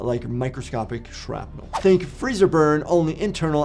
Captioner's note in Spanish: transición silbante